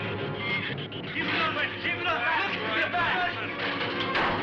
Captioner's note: men yelling